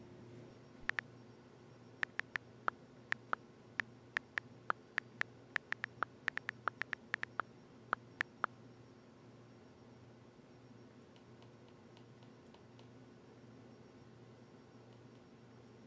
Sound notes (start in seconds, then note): 2.0 typing on phone